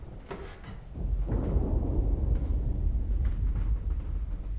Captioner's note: thunder rolling